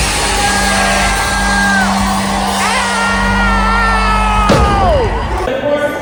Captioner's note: crowd cheering